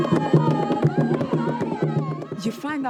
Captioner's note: chanting